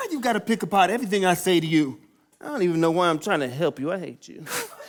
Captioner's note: none